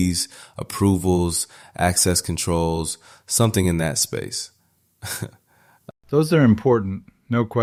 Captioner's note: slight laugh, slight pause